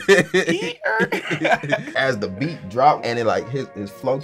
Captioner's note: laughing